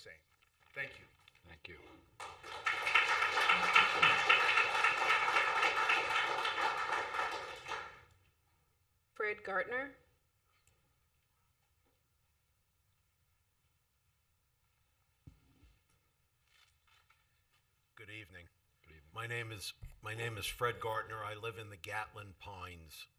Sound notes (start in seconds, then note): 6.3 applause